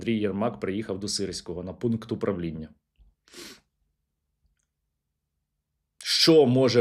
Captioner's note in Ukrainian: сопіння